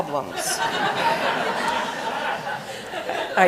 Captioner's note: laughter